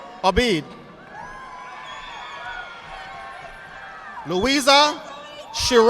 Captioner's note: audience applauding